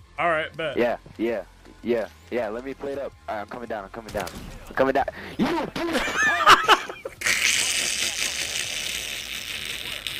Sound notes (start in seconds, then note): 5.0 laughs